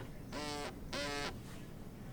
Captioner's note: phone vibrates